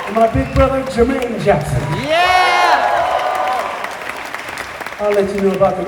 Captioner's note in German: jubel; applaus